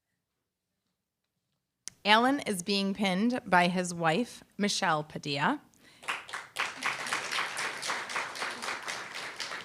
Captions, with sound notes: Alan is being pinned by his wife, Michelle Padilla. [APPLAUSE]